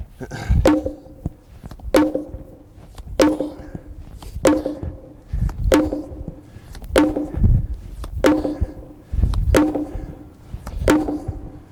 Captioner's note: pounding